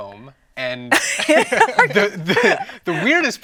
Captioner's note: laughing